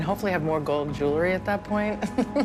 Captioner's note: laughs